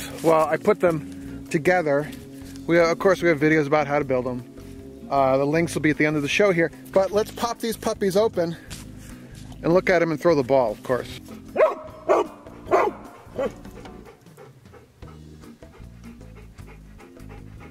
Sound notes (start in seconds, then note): 11.0 dogs barking and panting